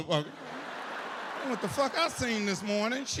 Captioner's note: audience laughs